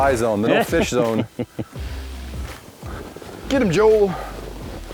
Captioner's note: laughs